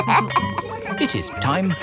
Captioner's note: all laughing; school bell ringing